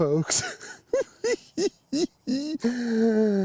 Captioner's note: cackles